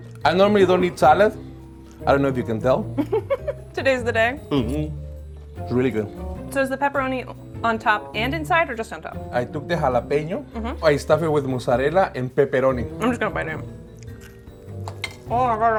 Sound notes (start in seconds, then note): 3.0 giggles